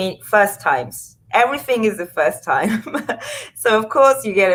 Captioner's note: laughs